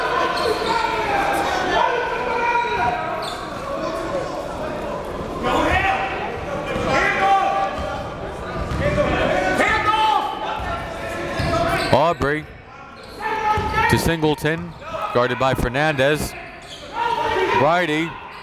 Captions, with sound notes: (players and coaches yelling) Obrey to Singleton guarded by Fernandez.